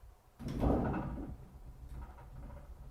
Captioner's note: earthquake